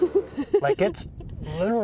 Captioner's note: laughter